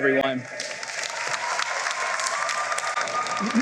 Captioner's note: applause